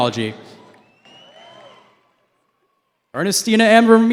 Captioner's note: cheering